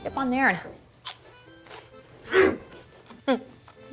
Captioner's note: crunch